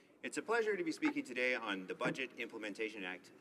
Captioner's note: speaking in french